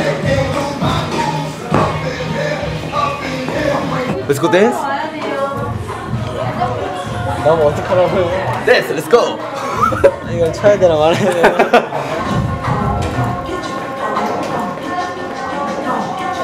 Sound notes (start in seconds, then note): 11.0 laughs